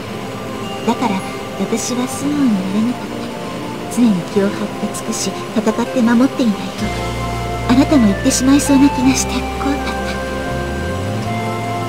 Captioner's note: rain